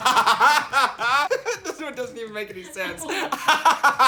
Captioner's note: laughing